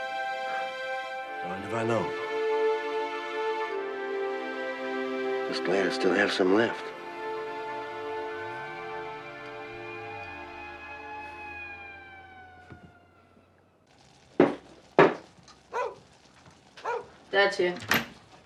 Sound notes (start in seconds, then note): 7.3 siren wailing; 15.7 barking